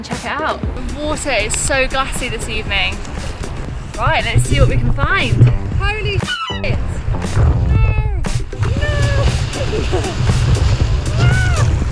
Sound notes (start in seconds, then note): 8.7 laughing